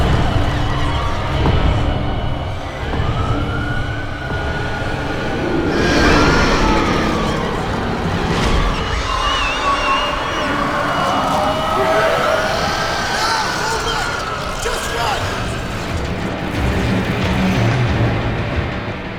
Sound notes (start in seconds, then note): 5.5 demon roaring; 5.5 people screaming; 11.2 demon screeching; 16.2 suspenseful music